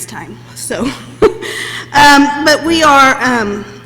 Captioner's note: laughs